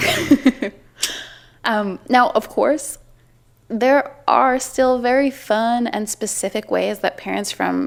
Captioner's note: laughter